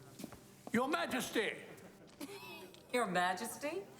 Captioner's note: chuckles